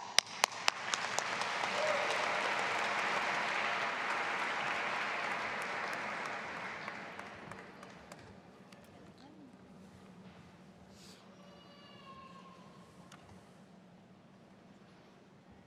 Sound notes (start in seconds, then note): 0.0 audience applauding; 6.6 deans chattering; 11.4 child wails